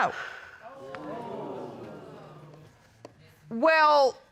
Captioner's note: audience exclaiming